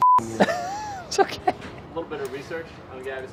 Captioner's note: laughing